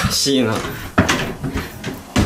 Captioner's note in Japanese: ドアを開ける音